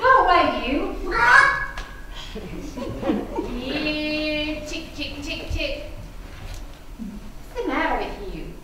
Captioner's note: hen squawks